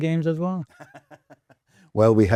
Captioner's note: laughs